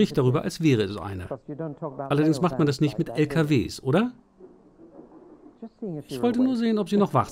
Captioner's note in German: Lachen